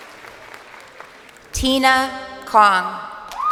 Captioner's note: crowd cheering